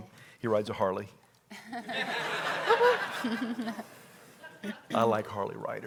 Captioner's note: congregation laughs